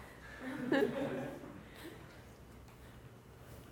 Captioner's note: laughing